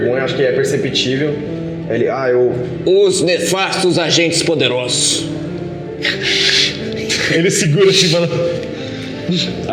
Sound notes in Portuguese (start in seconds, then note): 7.0 risos